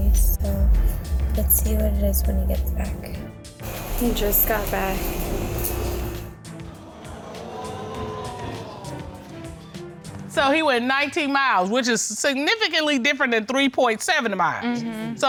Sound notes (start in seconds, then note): 6.7 audience exclaims